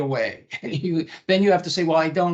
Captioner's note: chuckling